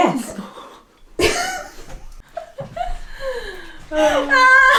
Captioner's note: laughing